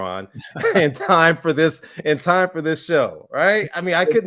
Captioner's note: laughs